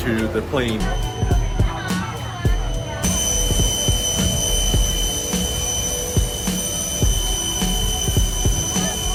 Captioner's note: chatter; airplane noise